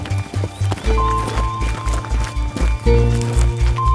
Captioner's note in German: GPS-Signalton